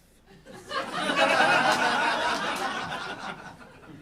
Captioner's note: audience laughing